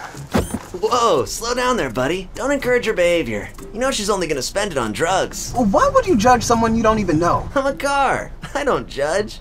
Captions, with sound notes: *sound of window locking* *car voice* Whoa! Slow down there buddy. Don't encourage her behavior. *car voice* You know shes only going to spend it on drugs. Why would judge someone you don't even know? *car voice* I'm a car. I don't judge.